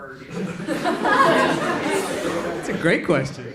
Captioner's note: audience laughing